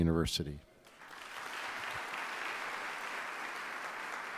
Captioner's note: applause